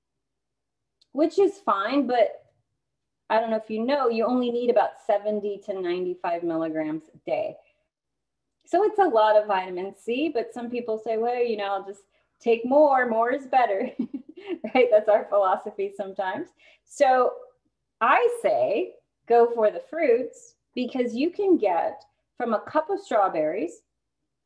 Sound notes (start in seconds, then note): 13.8 laughter